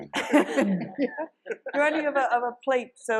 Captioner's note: audience laughing